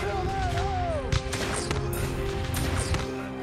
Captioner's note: gun fire